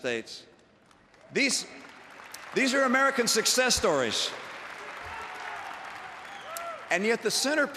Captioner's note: applause